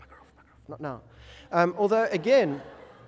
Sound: audience laughter

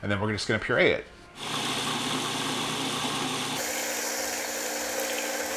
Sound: mixer grinding

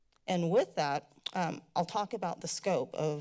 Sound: clicks tongue

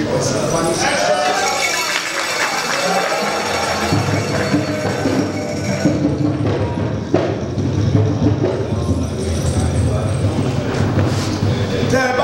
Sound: a round of applause

